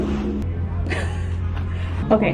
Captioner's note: laughs